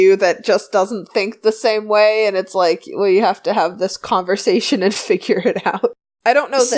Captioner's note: laughs